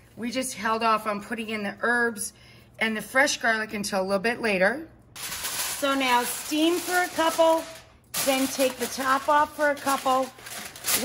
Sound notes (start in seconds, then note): 5.2 foil crinkles